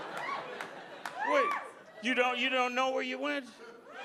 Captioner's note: audience laughing